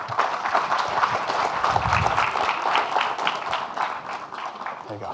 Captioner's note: audience clapping